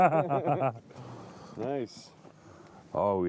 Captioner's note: laughter